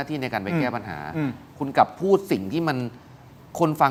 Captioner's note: clears throat